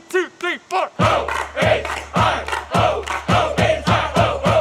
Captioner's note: crowd cheering